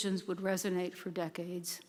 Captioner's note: none